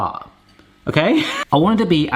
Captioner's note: laughs